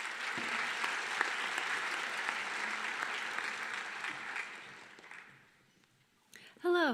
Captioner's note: applause